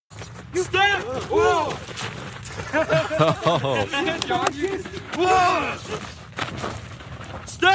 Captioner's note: laugh